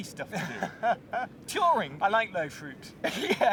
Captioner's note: laughing; laughing